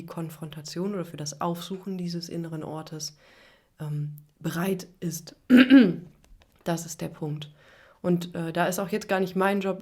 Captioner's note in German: räuspern